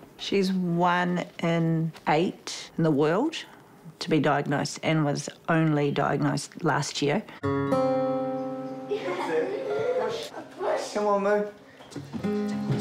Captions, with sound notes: - She's one in eight in the world to be diagnosed and was only diagnosed last year. (LAUGHTER) - Push. - Come on, Moo.